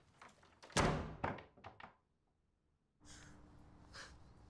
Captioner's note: door slams